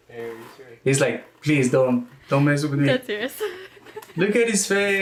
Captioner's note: laughs